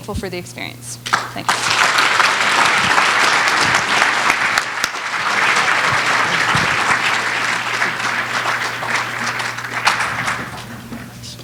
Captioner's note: applause